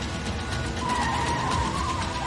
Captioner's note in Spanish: Chirrido de llantas